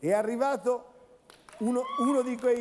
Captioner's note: Applauso